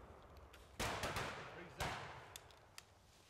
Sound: gunfire

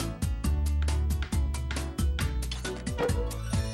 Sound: tap! Tap

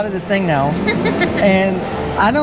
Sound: laughs

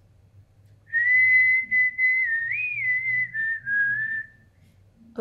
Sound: whistles notes

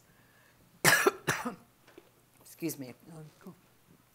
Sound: coughing

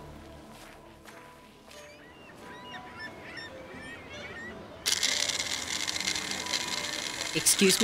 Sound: birds Chirping

